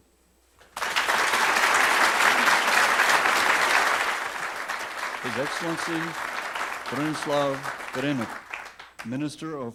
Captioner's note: applause